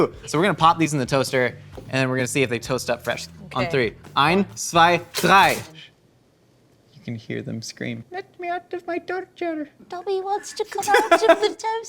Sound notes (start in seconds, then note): 4.2 speaking in foreign language